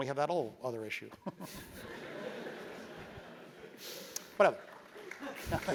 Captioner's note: laugh; applause